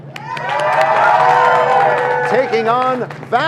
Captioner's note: cheers and applause